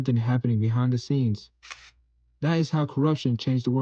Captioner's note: long pause